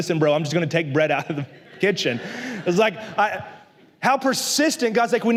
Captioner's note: la congregación se ríe